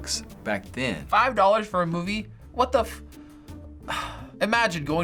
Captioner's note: sighing